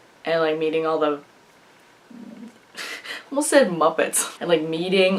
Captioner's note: laughs